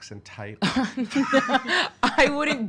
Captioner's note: laughing